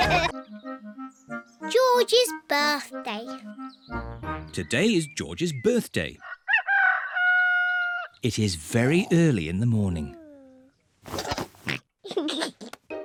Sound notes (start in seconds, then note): 6.2 roster crows; 12.0 oinks and giggles